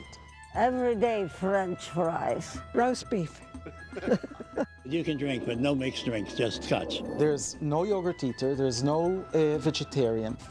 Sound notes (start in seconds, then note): 3.8 laughing